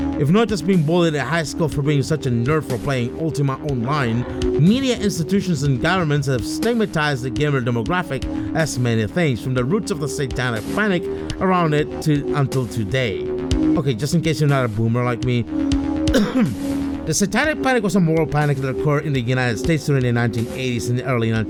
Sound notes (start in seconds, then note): 16.1 ahem